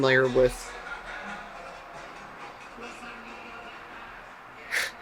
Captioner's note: loud vehicle drives by blaring music